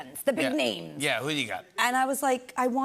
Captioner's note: normal voice